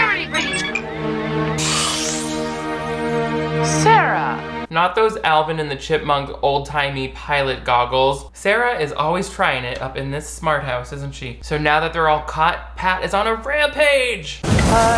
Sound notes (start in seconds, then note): 1.7 whooshing